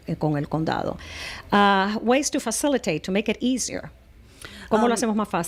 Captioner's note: Hablando ingl\s